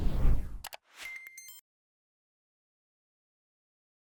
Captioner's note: electronic beeping